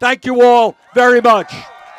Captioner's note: cheers